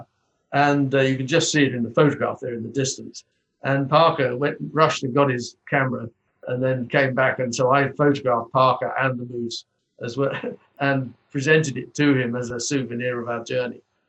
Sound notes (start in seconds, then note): 10.0 chuckles